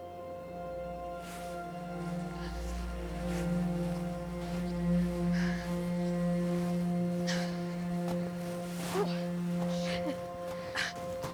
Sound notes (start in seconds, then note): 1.0 soft music; 7.7 women panting